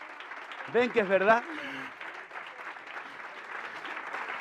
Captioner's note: applause